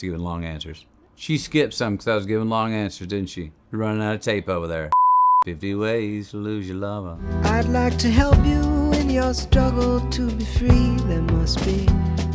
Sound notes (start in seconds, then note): 4.9 loud beep